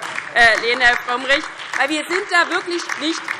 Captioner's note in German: Beifall DIE LINKE und vereinzelt Freie Demokraten